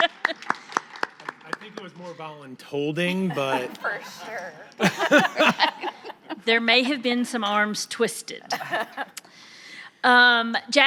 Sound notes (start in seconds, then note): 0.0 audience applauding; 4.8 audience laughing; 8.5 audience laughing